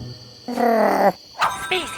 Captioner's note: Big Lizard groaning